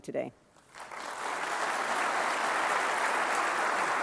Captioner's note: applause